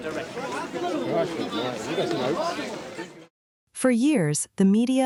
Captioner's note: crowd noise